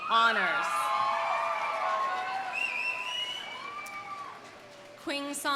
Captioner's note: audience cheering; audience applauding